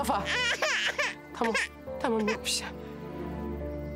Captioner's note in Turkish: Bebek ağlıyor